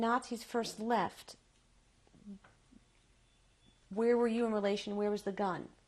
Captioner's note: pauses for 3 seconds